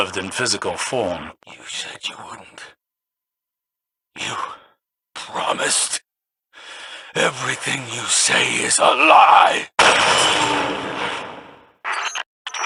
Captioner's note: gun shot